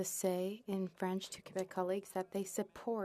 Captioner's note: speaking French